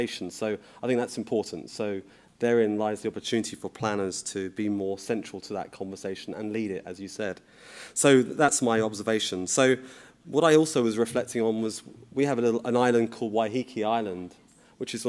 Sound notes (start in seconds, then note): none